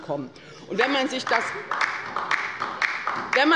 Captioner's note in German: Beifall bei der LINKEN